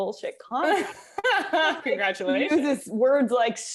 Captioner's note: chuckles